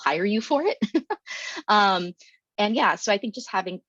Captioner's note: giggles